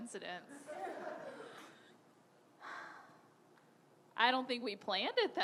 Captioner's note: audience laughing